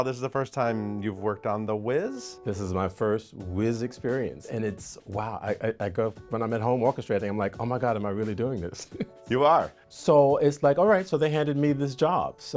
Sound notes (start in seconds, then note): 8.8 chuckles